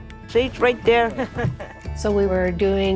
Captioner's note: laughter